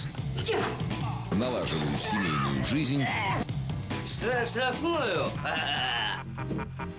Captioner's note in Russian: смех